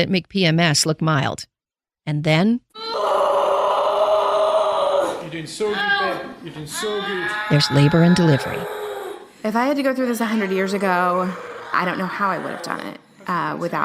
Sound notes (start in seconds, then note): 3.7 groan